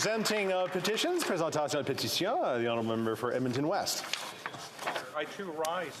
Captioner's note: some Applause